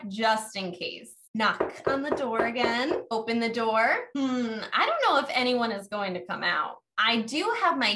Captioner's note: knock, Knock